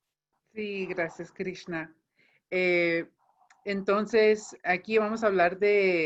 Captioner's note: speaking in foreign language